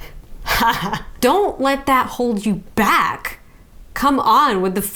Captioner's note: laughs